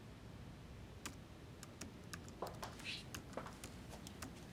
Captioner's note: keyboard clacks